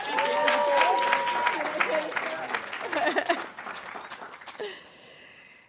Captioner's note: audience cheering and applauding